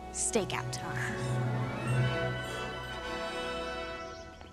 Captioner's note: birds chirping